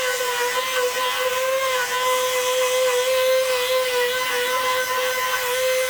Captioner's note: sanding